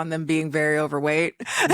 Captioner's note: laughing